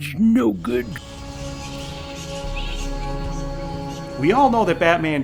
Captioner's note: bats chittering